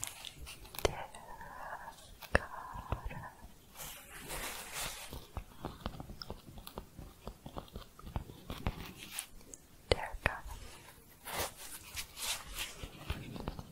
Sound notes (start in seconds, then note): 0.0 tapping, then shuffling; 3.7 shuffling and tapping; 11.4 shuffling and tapping